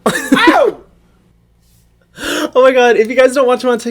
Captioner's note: laughs